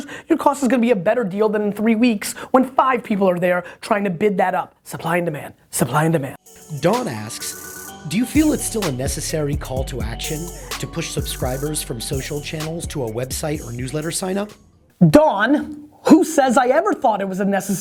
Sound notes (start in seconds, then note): 6.8 voiceover